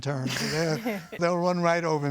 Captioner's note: laughing